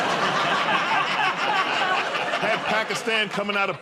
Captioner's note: laughter